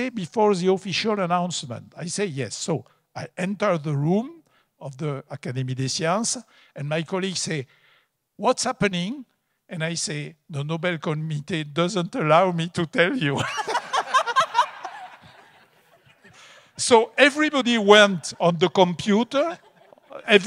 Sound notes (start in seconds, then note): 13.4 audience laughs